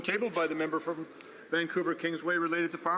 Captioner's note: speaking French